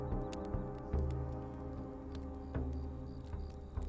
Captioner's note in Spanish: Fuego crepitando y grillos